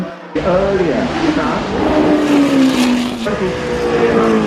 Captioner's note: car engines whoosh